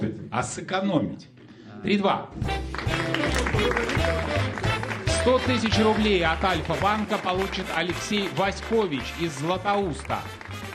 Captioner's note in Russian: аплодисменты